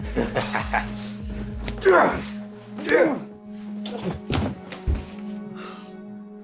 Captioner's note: Tim groaning; boy laughing